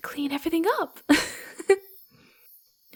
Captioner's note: laughs happily